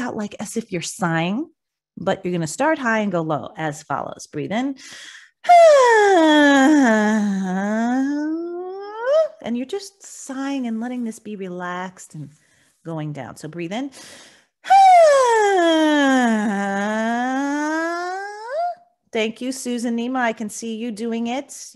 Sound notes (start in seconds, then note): 5.3 inhales; 5.4 vocalizing; 14.3 inhales; 14.6 vocalizing